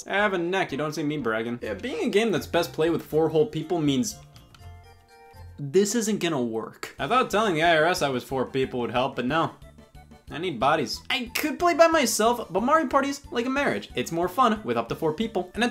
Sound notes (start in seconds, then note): none